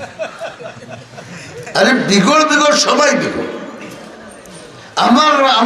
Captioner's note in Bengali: সশব্দ হাসি